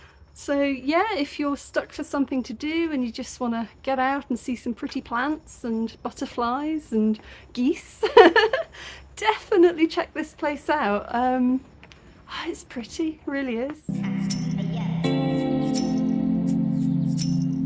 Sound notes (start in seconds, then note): 8.1 laughing; 13.9 chill lofi music